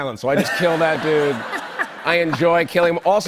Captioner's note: laughter